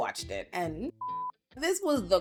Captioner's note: beep